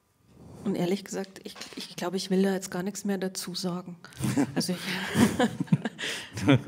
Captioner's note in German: Beide lachen